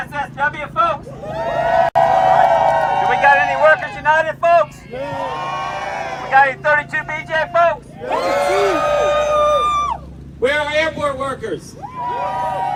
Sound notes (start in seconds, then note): 0.0 cheering and applause; 4.2 cheering